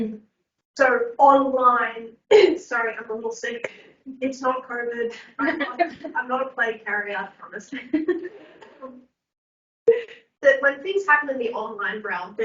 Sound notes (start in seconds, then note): 2.3 coughs; 7.9 laughs